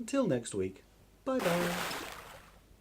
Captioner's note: big Splash!